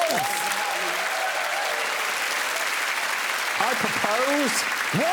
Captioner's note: applause